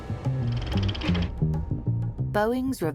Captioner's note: slideshow whirring